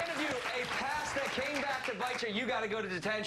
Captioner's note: applause